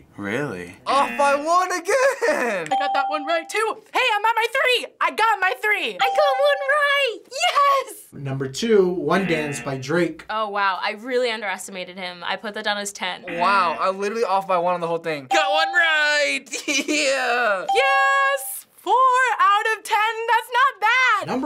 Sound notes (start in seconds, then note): 16.5 giggles